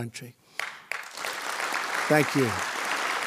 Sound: audience applauding

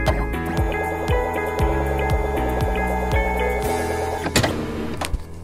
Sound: upbeat music; electronic whirring

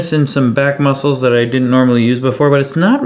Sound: none

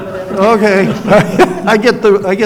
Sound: laughs

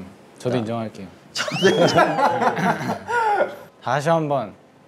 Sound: laughing

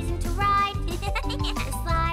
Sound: chuckles

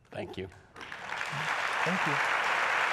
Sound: audience applauds

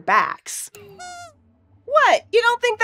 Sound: squeaks squeaks

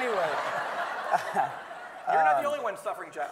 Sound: everyone laughing

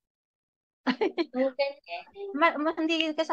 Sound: laughs

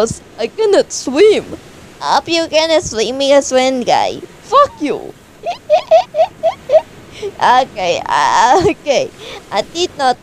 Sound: laughs

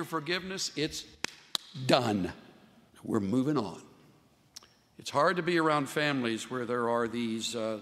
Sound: claps hands

